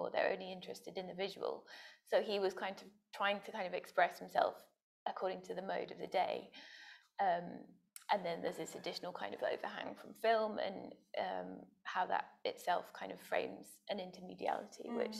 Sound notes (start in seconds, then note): none